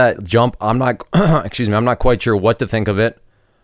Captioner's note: coughing